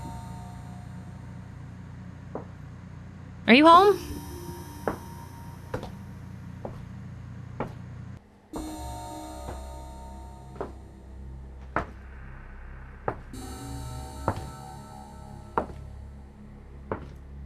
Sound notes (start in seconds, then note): 5.7 footsteps approaching; 8.7 suspenseful music